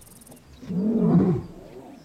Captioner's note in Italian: ruggito